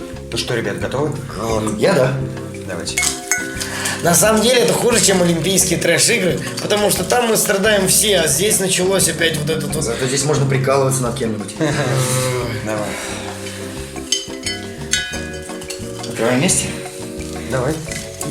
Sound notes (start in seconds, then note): 11.4 laughing